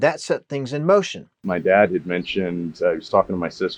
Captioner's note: laughing